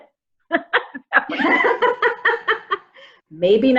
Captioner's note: laughter